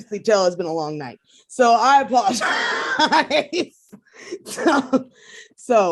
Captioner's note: laughs